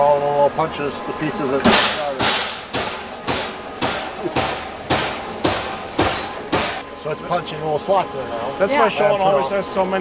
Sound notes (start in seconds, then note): 1.6 steel clanging